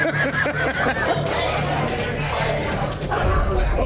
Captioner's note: laughing